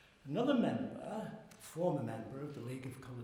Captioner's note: none